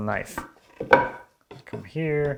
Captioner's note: plank on desk clunking